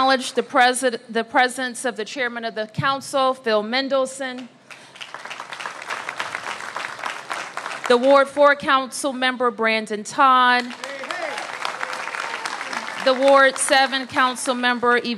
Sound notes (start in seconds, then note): 4.6 applause; 10.5 applause